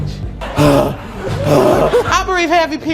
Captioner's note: pants